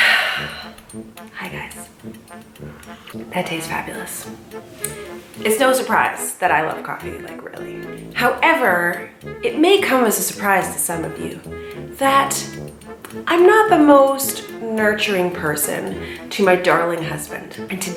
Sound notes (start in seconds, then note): 0.0 sighs; 1.6 sips